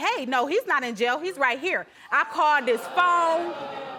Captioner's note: audience gasps